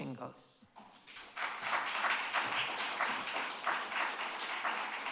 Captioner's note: audience claps